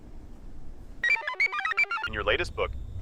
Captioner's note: computer chirps